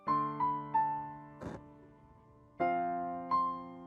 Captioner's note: blowing